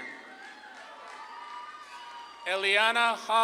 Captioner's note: audience claps and cheers